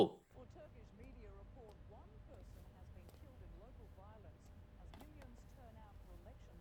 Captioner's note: indistinct newsroom chatter